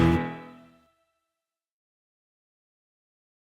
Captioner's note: music stops